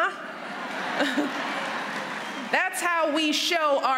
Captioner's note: applause